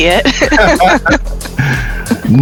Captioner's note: laughs